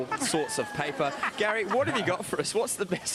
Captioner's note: laughing